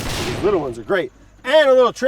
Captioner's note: gunshot bangs